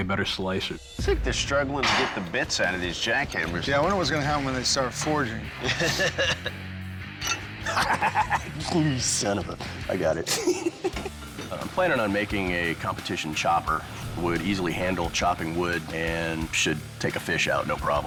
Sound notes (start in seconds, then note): 5.5 laughs